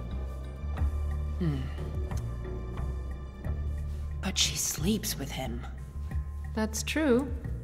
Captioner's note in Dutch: klikt met tong